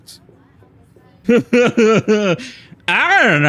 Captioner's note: laughs